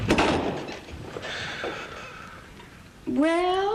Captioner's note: Horton sighs